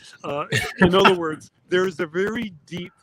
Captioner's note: John laughs